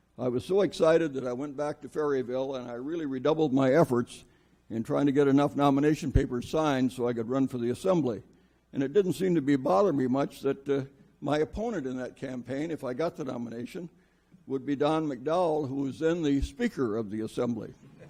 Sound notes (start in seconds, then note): none